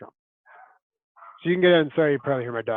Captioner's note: dog barking